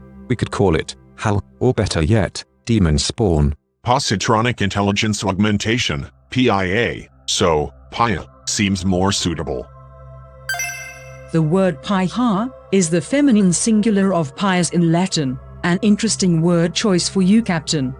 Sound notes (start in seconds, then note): none